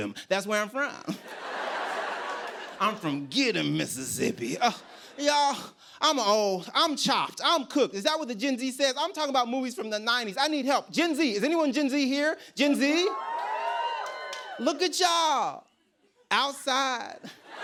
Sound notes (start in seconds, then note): 13.1 scattered cheers and applause; 17.2 laughter